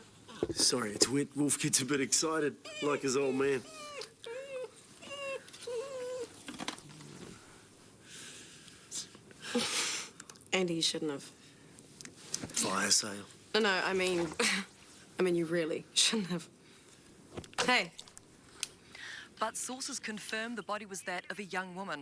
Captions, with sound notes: Sorry, Wolf gets a bit excited like his old man. (dog whining) (laughing) - Andy, you shouldn't have. - Fire sale. - No, no, I mean, I mean you really shouldn't have. Hey. - But sources confirm the body was that of a young woman